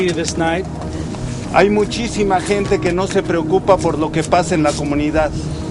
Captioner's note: foreign Language